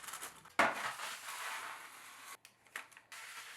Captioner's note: board sliding